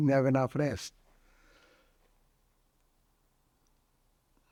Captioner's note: pauses 11 seconds